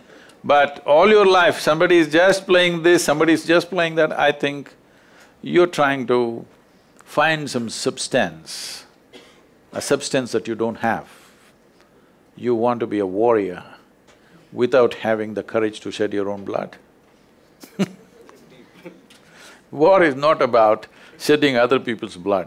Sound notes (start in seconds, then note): 17.6 laughs